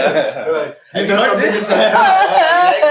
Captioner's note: laughs